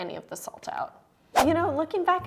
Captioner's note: whoosh